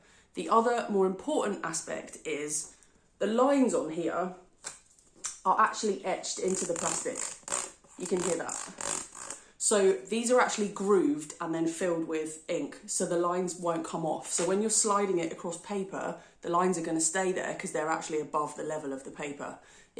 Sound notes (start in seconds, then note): 6.4 scraping